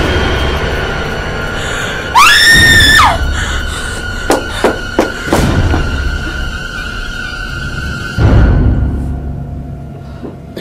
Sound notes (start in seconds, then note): 0.1 tense music; 2.1 Nicole screams